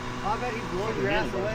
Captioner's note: engine revving